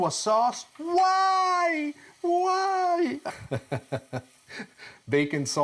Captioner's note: laughs